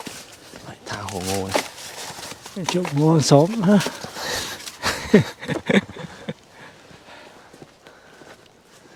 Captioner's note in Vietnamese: Tiếng cười